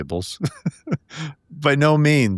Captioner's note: laughing